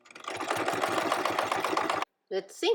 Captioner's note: sewing machine tapping